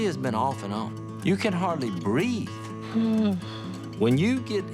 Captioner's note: sighs